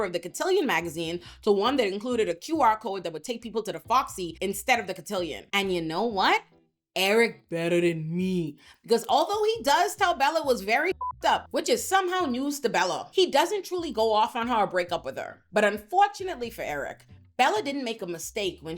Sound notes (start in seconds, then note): 10.9 beep